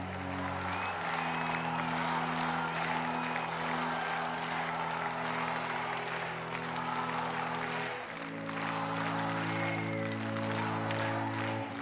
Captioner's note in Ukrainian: оплески